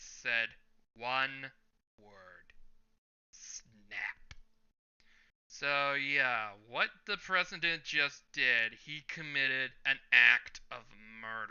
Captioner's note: snap